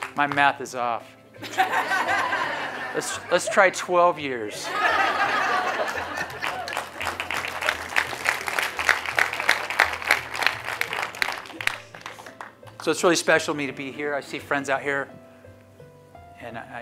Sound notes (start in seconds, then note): 5.8 applause